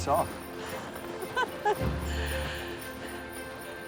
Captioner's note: laughing